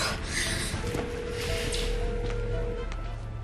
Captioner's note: breathing heavily; line ringing